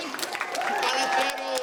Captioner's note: cheers and applause